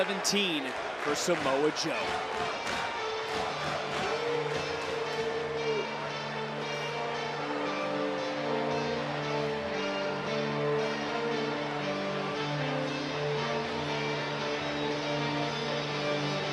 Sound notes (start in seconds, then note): 5.7 cheers